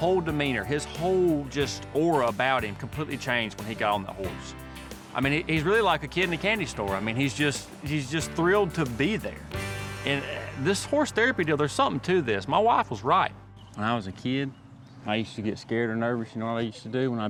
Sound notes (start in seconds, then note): none